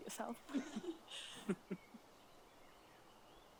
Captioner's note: giggling